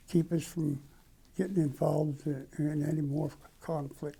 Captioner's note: none